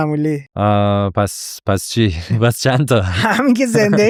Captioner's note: laughs